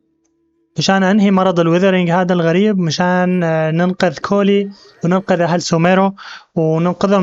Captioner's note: beeping; whooshing; beeping